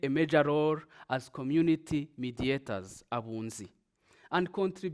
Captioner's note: speaks in foreign language